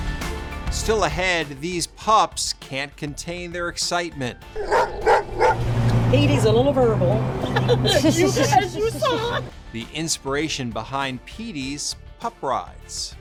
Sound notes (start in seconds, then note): 4.5 dog barking; 7.3 laughs